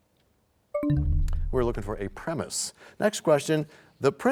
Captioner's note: bell chimes, time expires